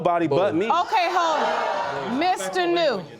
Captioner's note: audience gasps loudly